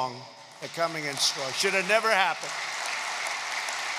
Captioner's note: applause